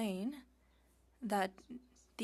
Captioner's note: speaking French